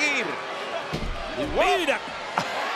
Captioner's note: laugh